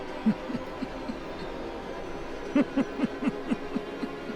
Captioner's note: laughing